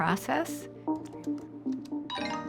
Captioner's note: computer dings